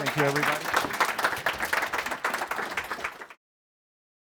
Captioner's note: applause